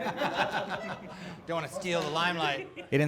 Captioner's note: laughs